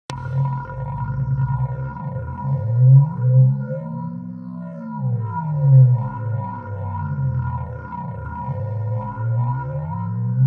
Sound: sound of audio feedback

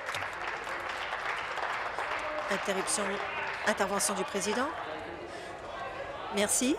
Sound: applause

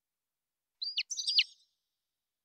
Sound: chirps

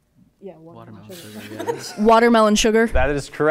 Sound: laughing

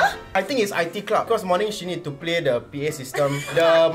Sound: public address

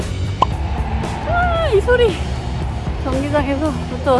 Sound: audience shouting

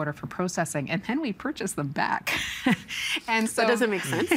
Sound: chuckling

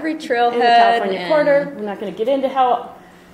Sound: voiceover

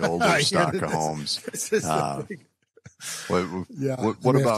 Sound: laughs

